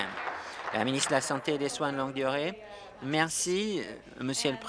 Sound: applause

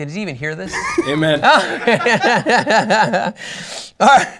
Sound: laughter

